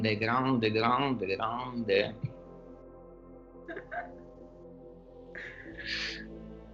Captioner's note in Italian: risate